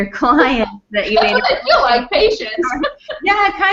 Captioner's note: laughs